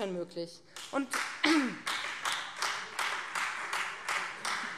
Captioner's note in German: Beifall Freie Demokraten